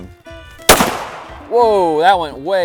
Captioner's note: bat fires